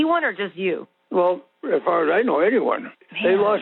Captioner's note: over the Phone